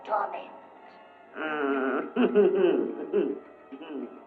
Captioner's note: evil chuckling